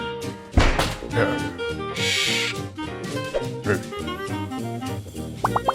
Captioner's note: grunts; parrot squawks; pops